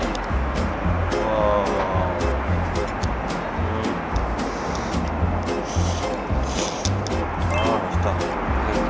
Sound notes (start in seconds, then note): 5.6 blowing; 6.5 slurp